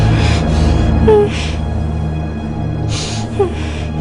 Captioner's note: whimpering